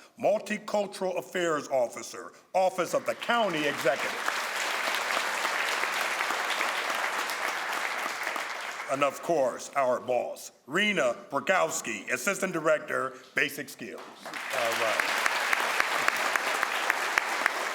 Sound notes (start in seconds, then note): 4.9 crowd applauds; 14.1 crowd applauds